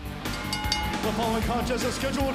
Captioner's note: bell ringing